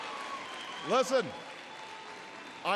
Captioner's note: applause